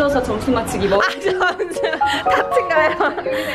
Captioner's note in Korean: ㅋㅋ